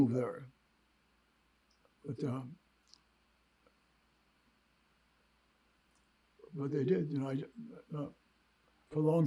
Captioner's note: pauses 6 seconds